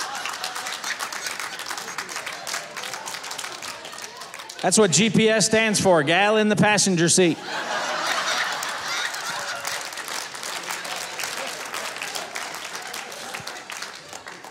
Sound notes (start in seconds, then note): 0.0 audience applauding; 7.5 audience applauding; 7.5 audience laughing